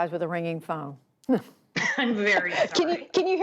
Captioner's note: laughter